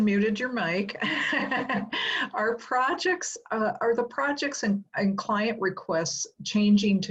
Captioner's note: laugh